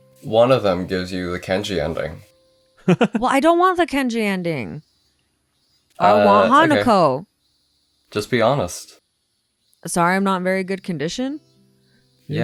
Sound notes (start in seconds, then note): 2.8 laughs